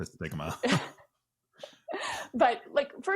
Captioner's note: both laugh